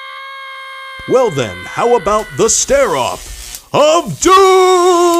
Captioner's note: electrical laser sounds